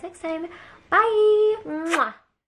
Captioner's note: kisses